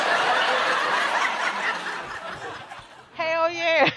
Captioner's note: laughter erupts